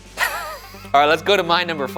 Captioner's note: laughing